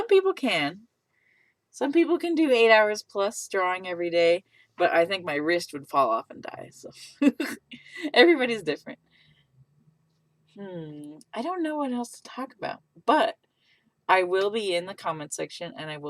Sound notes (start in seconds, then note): 7.6 laughs